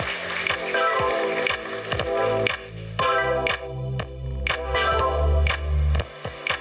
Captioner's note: applause